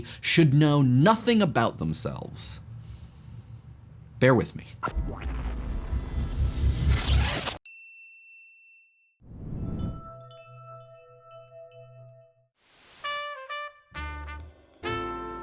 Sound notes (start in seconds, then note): 9.8 wind chimes; 12.8 jazz music playing